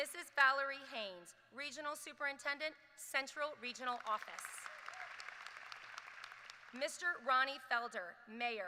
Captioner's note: applause